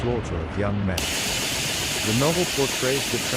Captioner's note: machine gun fire